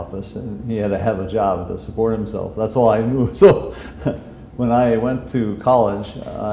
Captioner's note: chuckle